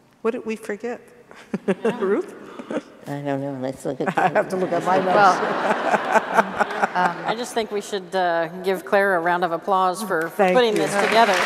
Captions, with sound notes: What did we forget? Ruth? I don't know, lets look at the - I have to look at my notes - (laughter) I just think we should give Clara a round of applause for putting this together